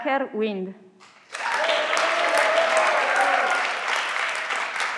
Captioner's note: everyone claps